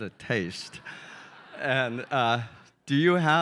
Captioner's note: audience chuckling